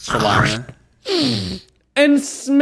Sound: inhales

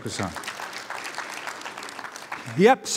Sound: applause

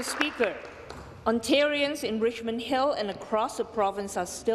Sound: applause

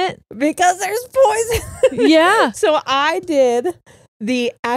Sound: laughs

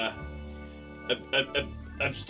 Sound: stuttering

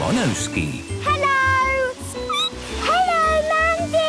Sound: squeaking

